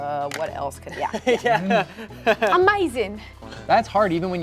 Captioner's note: chuckles